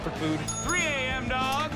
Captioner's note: bell dings